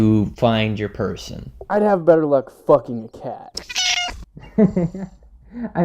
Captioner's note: meow